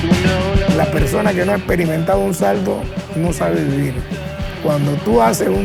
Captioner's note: speaking Spanish